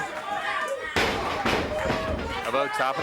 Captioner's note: blows thudding; body thudding